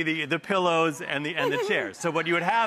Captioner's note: snickers; audience laughs